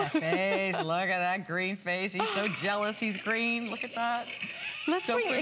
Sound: laughter; laughter

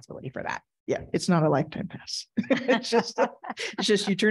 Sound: laughs

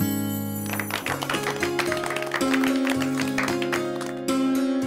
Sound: applause

